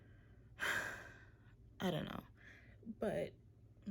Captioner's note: sigh